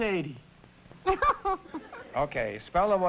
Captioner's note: laughter